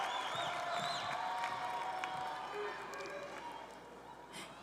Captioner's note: cheers and applause